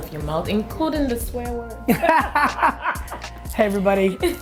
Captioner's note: laughs